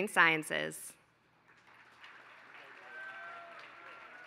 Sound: applause

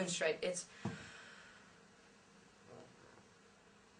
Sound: inhale

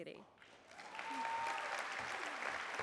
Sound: applause

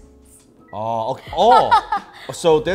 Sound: laughing

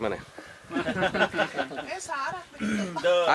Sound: laughing

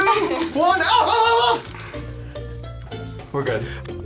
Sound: exclaiming

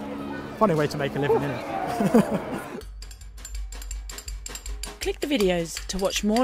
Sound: laughs

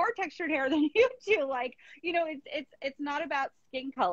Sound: laughing

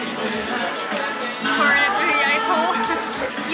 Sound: laughter

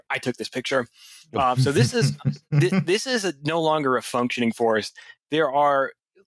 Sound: laughter

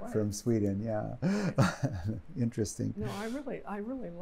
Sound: laughing

